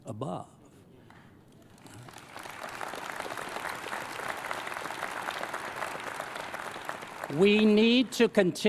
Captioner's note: applause